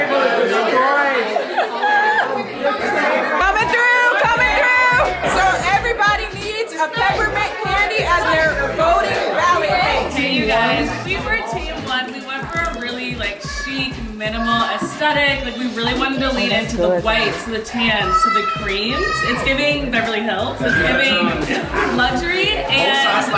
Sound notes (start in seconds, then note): 0.0 guests chattering; 2.7 laughs; 18.7 kids shouting; 22.0 guests chattering